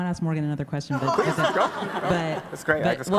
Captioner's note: everybody laughs; laughs